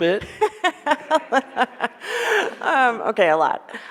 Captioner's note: laughs